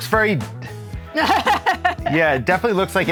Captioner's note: laughing